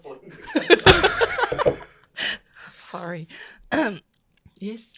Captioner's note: clears throat awkwardly